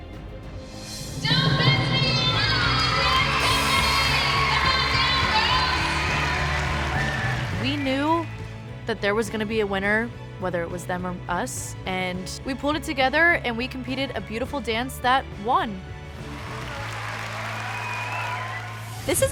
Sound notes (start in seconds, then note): 5.1 cheering; 16.1 cheers and applause